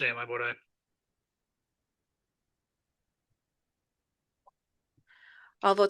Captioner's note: silence